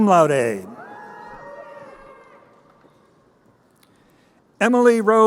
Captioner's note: crowd cheering